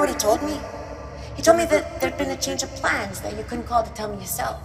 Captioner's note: voice echoes